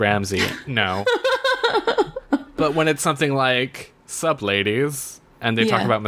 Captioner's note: laughs